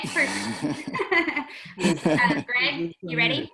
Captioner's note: laughing